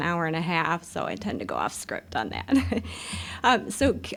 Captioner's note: chuckling